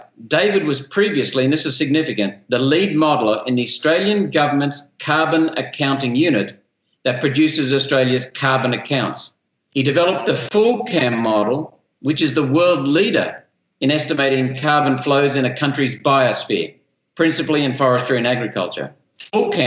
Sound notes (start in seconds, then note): none